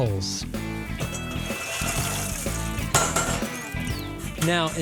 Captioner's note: coals sliding out